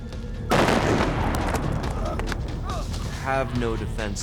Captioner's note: explosion